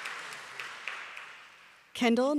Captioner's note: applause